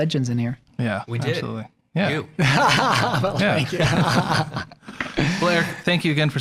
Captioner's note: all laughing